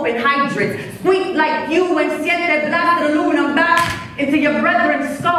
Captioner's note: claps